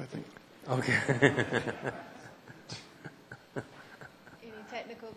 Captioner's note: laughter